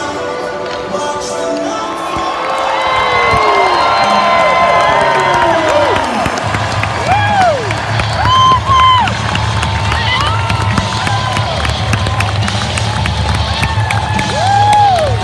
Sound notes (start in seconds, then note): 1.7 cheering